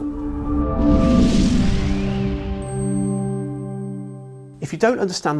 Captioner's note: bells tinkling